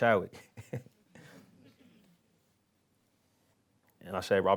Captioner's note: laughs